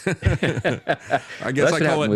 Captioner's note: laughing